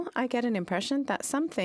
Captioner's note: speaking French